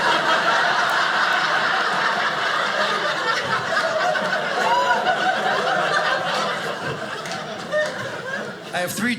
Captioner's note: audience laughing